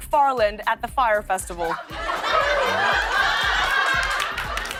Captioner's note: laughter